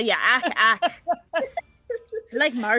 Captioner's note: laughing